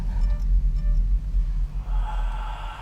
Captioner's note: gasp